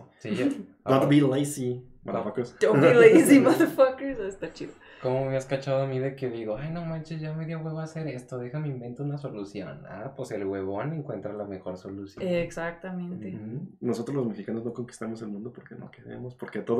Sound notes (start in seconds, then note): 2.7 laughing